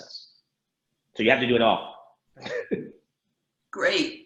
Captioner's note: laughs